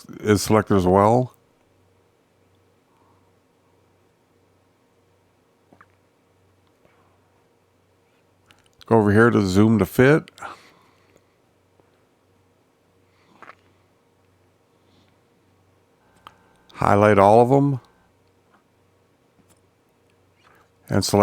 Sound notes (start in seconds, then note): 1.6 silence; 10.7 silence